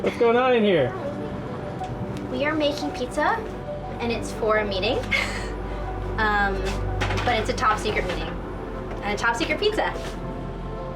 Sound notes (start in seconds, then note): 6.4 chuckles